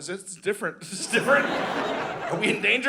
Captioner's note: audience laughing